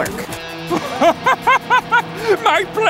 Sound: laughing

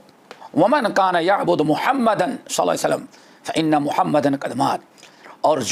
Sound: in Arabic

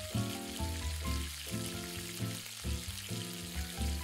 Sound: frying Sound

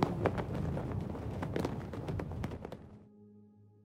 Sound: flags in the wind

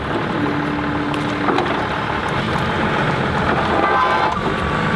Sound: forklift engine roaring

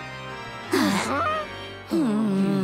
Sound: gasping; groaning

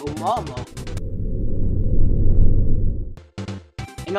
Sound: ground rumbles

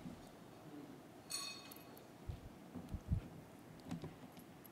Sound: metal clinks

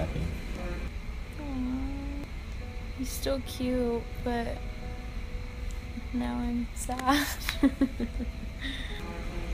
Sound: chuckles

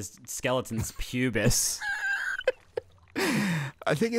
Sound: laughing

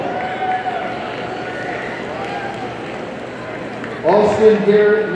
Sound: audience cheers

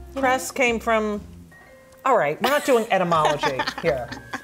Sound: laughs

